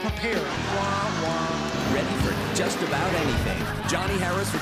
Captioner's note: horn sounds